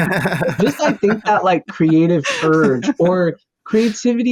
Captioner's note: laughter